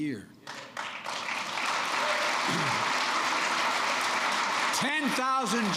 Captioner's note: applause